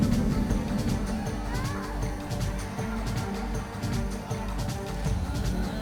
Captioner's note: air whooshing; woman screaming